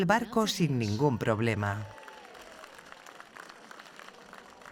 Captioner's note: crowd cheers